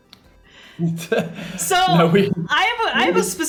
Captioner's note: laughs